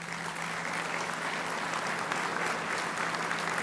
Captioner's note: applauding